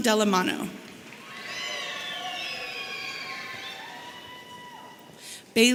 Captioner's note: audience cheering